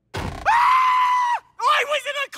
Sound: JFK screaming

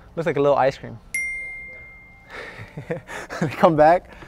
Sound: bell dings

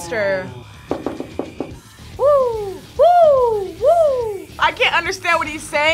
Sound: knocks table

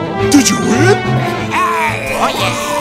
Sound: groaning

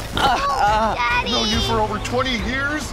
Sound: groaning

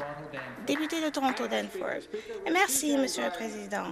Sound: applause

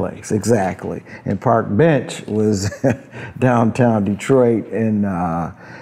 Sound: laughs

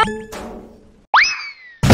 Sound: kicks

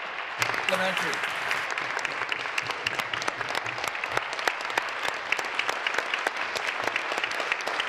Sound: applause

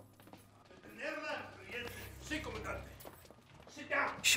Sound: speaking in Spanish

